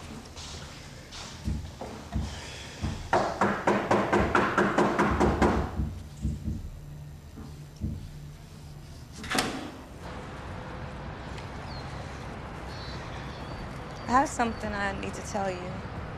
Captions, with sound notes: [knocking on door] [door clicks] I have something I need to tell you.